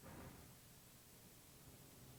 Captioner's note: none